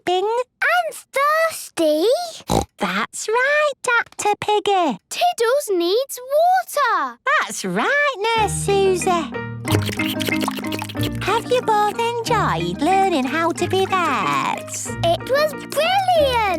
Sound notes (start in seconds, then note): 2.4 snorts; 9.6 slurping